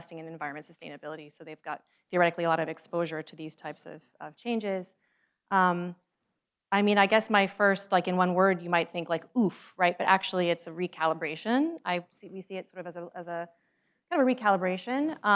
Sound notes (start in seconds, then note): none